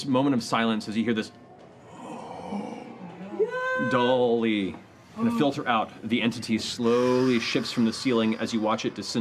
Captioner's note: low gasp